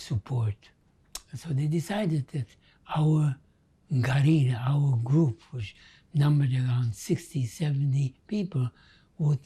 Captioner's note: non-english